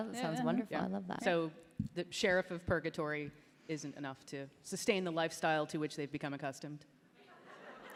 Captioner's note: laughter